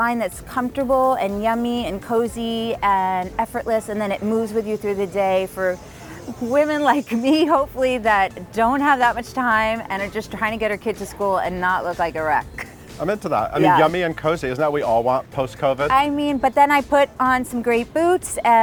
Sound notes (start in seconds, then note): 12.6 laughing